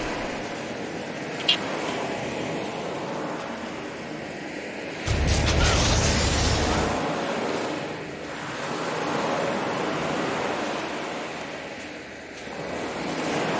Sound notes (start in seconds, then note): 0.0 water sounds